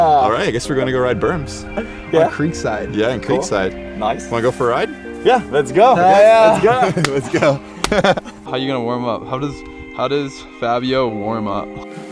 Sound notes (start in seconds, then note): 0.0 laughing; 5.9 laughing